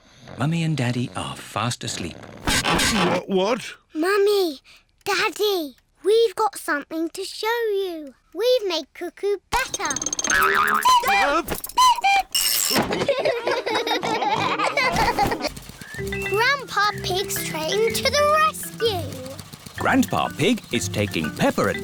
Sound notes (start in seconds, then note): 9.6 clock cuckoos; 12.9 all laugh